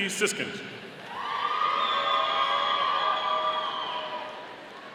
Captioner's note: audience cheering